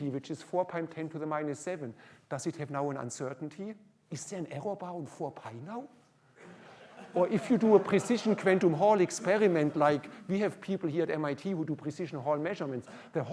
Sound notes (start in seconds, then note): 6.4 laughter